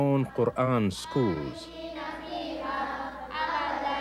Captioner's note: speaking arabic